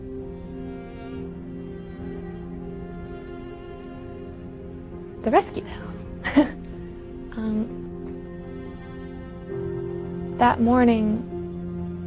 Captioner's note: laughter